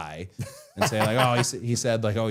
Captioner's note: Matt laughing